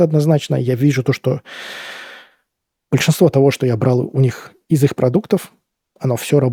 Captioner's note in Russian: вздыхает; тяжело вздыхает